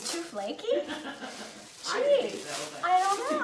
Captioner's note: laughing